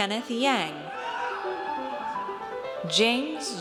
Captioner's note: audience cheers